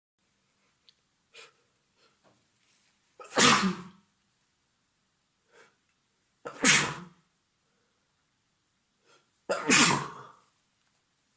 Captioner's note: triple sneeze